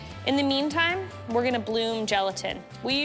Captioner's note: none